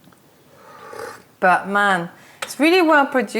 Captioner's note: sips tea